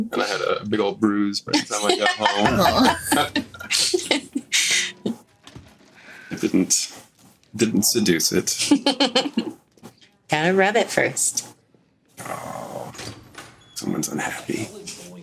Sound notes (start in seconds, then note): 1.6 all laugh